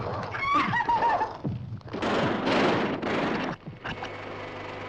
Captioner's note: máquinas zumbindo